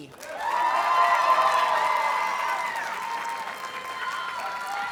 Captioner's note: audience cheers and applauds